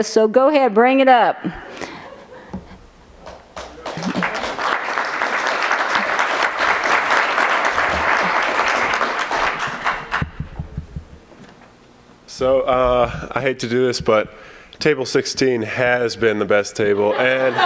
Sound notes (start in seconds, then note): 3.2 applause; 16.9 laughter